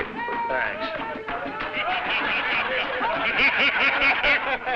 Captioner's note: crowd laughing